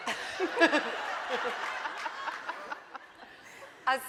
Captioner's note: laughing